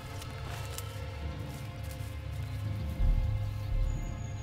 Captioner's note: Ellie speaks in French; leaves rustle